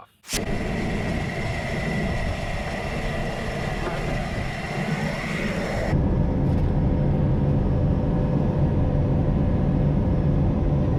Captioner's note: sound of engine